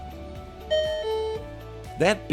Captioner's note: beep